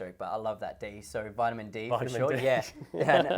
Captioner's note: laughs